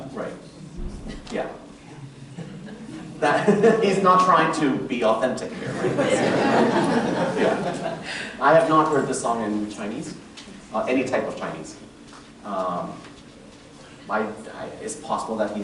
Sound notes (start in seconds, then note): 1.5 laughter